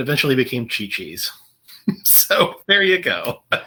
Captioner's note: laughter